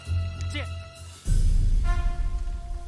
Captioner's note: soldier exclaims